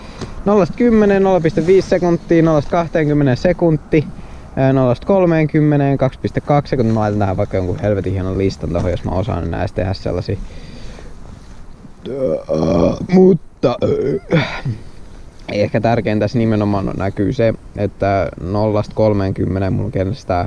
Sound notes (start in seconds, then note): 12.0 burp; 13.7 more burps